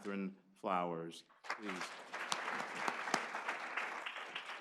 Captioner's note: applause